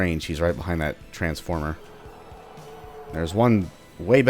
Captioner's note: Other Destroyer howls